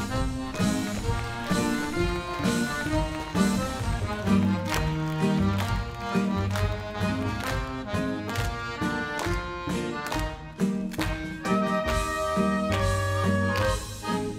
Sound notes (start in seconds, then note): 1.7 crowd cheers and claps; 4.3 dancers clap